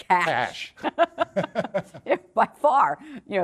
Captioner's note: laughter